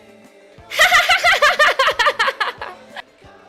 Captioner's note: laughs